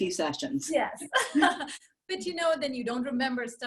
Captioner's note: laughing